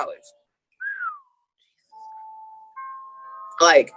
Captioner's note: whistles